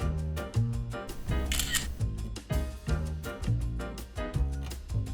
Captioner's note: camera flash